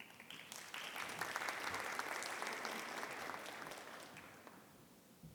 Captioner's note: audience applauding